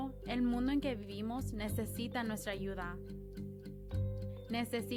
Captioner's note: speaks Spanish